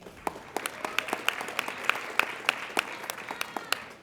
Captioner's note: applauding